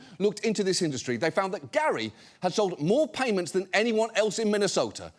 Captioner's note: none